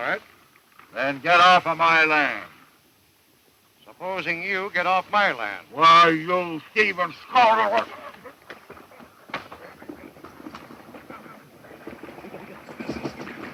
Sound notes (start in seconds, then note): 7.7 thumping; 7.8 grunting